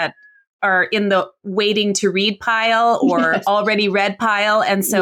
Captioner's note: laughs